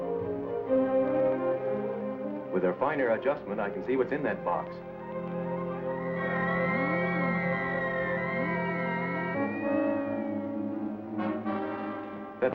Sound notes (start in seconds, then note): 6.6 opticum scillometer humming; 10.5 dramatic music